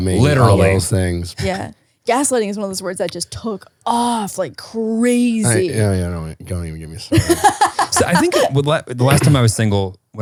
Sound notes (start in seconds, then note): 7.1 laughing